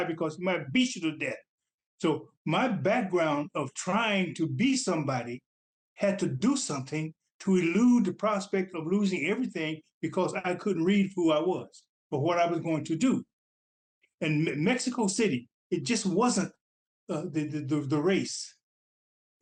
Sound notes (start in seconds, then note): none